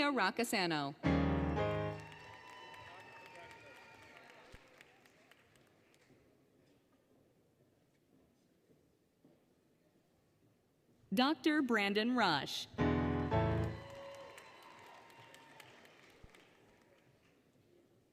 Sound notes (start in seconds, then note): 1.5 applause, Cheering, Music; 1.5 applause, Cheering; 12.9 applause, Cheering; 13.0 applause, Cheering, Music